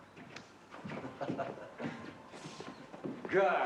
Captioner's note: chuckling